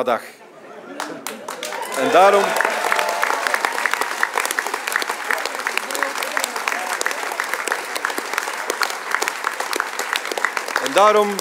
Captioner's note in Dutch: applaus